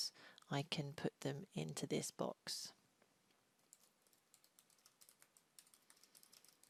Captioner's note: typing noises